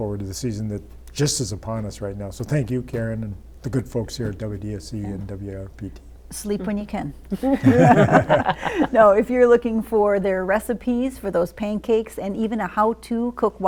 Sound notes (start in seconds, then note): 7.3 laughter